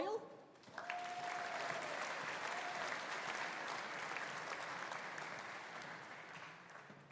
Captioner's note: audience applauding; audience cheering